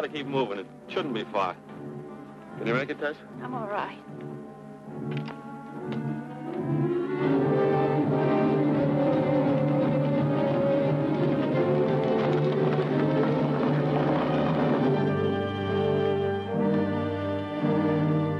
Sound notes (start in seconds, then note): 7.9 ominous music; 11.2 hooves clopping